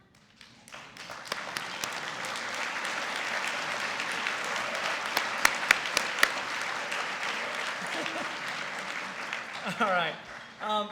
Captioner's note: applause